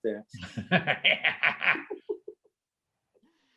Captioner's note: laughs